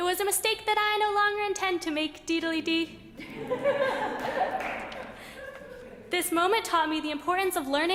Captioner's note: laughter